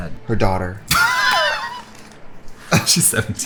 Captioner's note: laughs